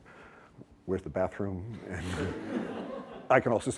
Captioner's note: laughter